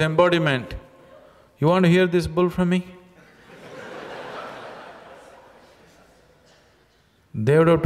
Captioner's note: laughter